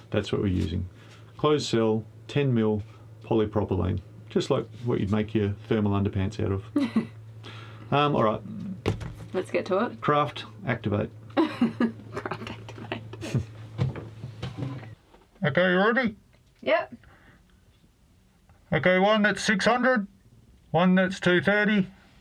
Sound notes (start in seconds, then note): 11.3 laughs